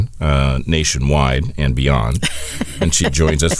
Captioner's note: laughs